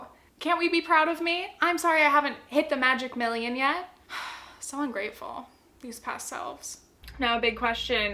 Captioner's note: sigh